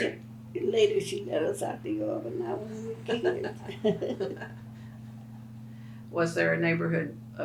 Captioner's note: laughs